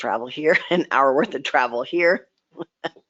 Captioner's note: laughs